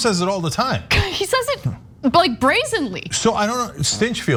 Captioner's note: laugh